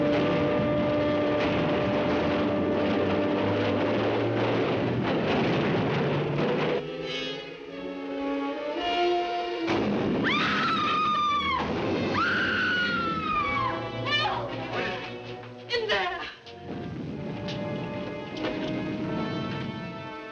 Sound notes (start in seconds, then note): 0.0 artillery firing; 0.1 dramatic music; 10.3 Nadya screaming; 17.3 dramatic music